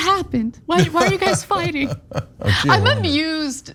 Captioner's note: laugh